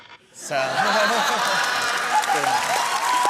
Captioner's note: laughter